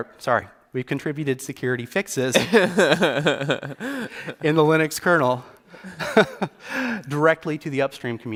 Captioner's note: laughs